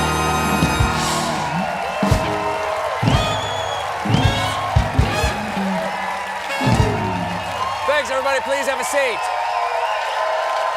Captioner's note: cheers and applause